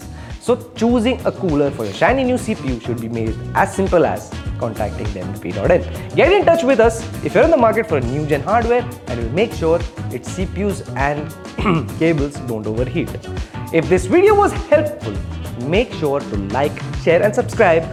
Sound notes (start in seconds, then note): 11.5 ahem